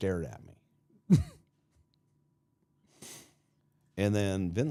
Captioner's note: Mark chuckles